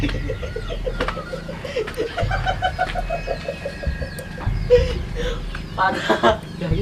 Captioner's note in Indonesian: ketawa